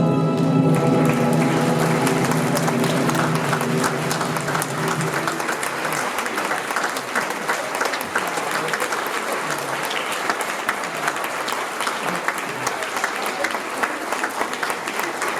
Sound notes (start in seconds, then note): 0.4 applause